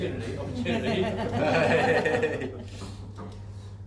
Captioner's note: laughing